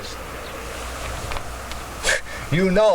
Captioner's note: wind howling